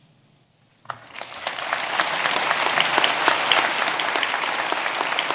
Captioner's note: audience applauding